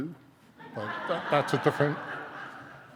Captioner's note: audience laughing